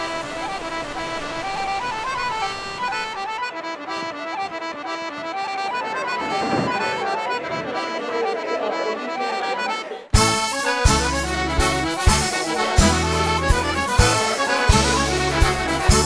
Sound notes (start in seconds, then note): 5.0 bustling conversation, music continues; 10.1 music builds